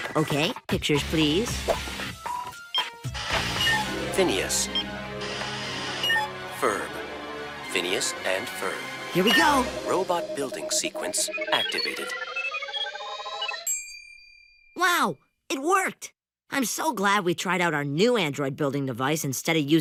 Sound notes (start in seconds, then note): 13.0 beeping; 13.6 dings